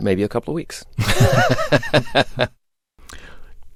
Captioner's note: laughter